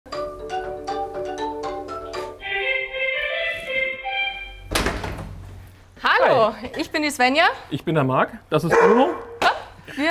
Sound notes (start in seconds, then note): 2.1 melodic doorbell, door opens; 8.7 barking